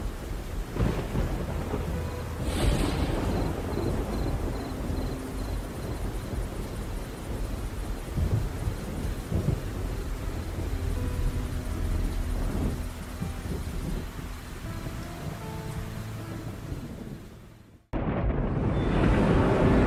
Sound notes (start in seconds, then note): 1.3 thunder and rain; 17.4 menacing dream noises